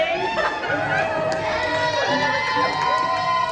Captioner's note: collective cheering for completely freestyling